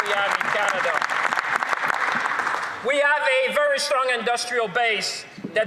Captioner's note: applause; some Applause